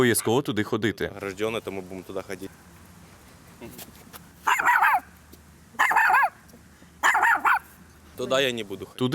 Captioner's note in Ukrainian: шпіц гавкає